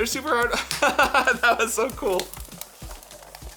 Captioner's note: laughter